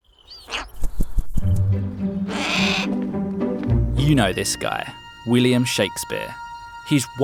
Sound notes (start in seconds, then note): 0.0 bird chirps; 2.3 bird crows